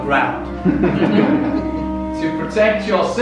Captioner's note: laughter